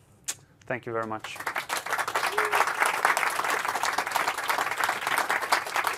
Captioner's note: applause